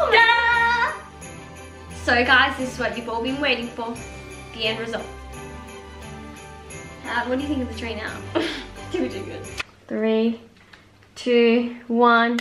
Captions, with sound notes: Ta-Da! So guys, this is what we've all been waiting for. The end result. But what do you think of the tree now? (laughs) You're ridiculous. Three, two, one, go!